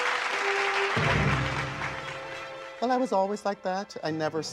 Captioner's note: audience applauding